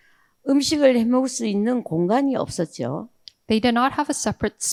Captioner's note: speaking in foreign language